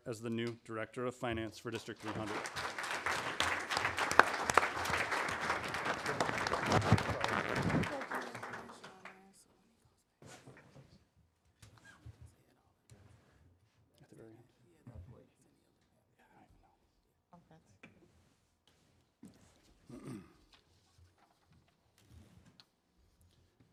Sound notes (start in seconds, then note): 1.8 applause